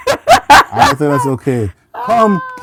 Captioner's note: laughter